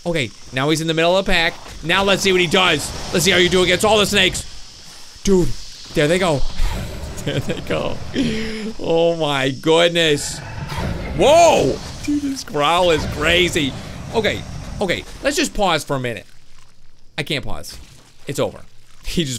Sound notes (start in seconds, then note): 10.1 dragon roars